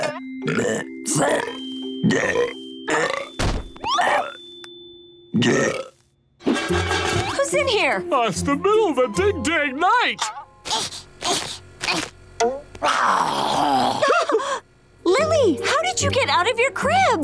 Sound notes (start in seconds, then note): 0.1 belching; 5.8 clattering; 10.3 growling; 12.8 shrieking; 12.8 growling